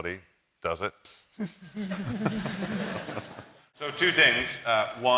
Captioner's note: laughter